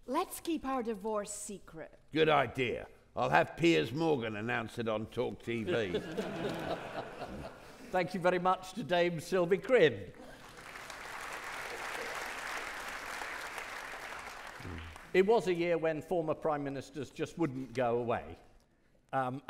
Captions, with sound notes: - Let's keep our divorce secret. - Good idea. I'll have Piers Morgan announce it on Talk TV. (audience laughing) - Thank you very much to Dame Sylvie Krin. (audience clapping) It was a year when former prime ministers just wouldn't go away.